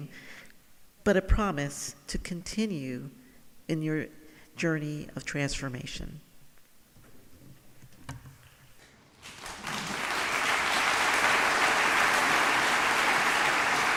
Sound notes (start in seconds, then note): 9.2 audience applauding